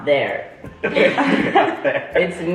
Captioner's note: family laughs